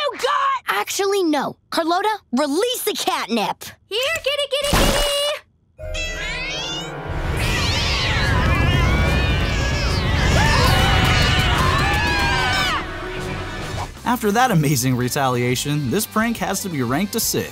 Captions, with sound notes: Actually, no. Carlota, release the cat nip. Here, kitty, kitty, kitty. [meowing] [screaming] After that amazing retaliation, this prank has to be ranked a six.